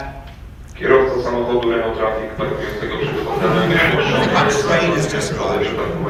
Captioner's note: PA system chimes; foreign Language on the PA System